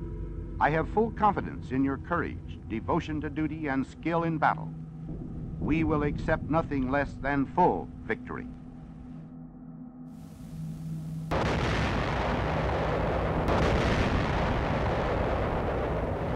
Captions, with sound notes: I have full confidence in your courage, devotion to duty and skill in battle. We will accept nothing less than full victory. (cannons firing)